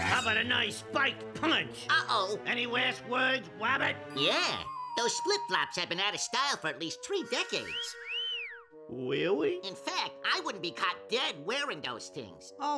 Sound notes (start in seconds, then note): 7.6 whistling